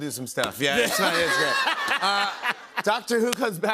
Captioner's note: laughter